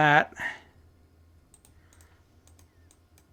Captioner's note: silence